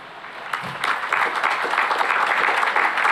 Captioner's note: applause